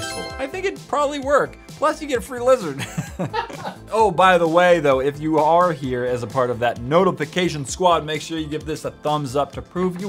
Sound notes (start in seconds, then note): 2.7 laughs